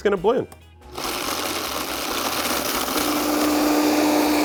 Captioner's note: blender whirs